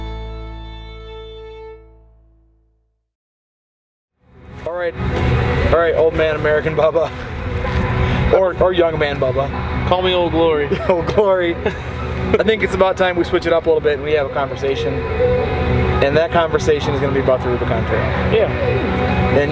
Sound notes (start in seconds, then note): 0.2 ambient electronic music; 10.6 chuckles; 10.6 ckuckles